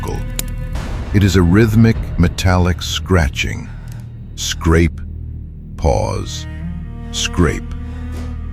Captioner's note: scrape. Pause. Scrape